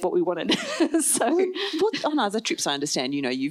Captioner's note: laughs